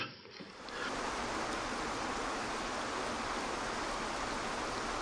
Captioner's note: water rushing